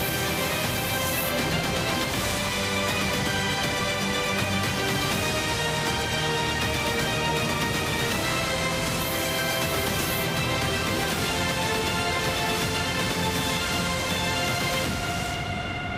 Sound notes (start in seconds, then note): 0.1 text swooshes; 9.1 text swooshes; 11.0 dramatic orchestral music